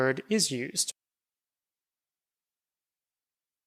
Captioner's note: silence